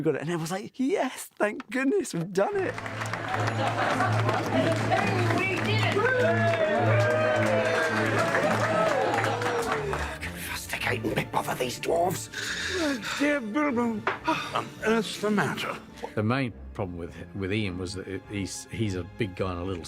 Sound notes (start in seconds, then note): 2.9 cheering and applause; 7.3 all cheering